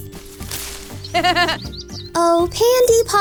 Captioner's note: rustling; laughs